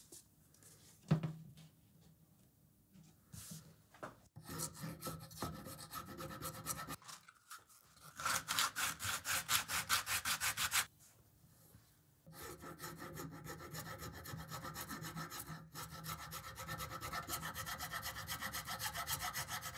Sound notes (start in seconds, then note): 8.2 sanding; 12.3 file rasping